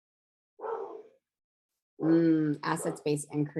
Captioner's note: dog barking